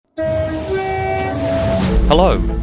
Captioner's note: horn